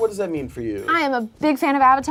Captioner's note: none